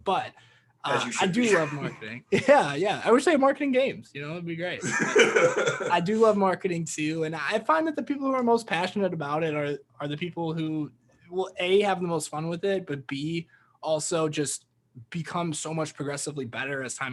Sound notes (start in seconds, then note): 4.8 laughing